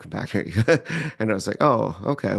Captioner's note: laughs